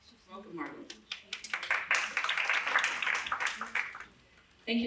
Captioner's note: applause